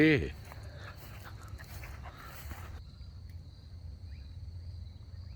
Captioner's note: insects chirring